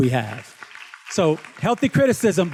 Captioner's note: students claps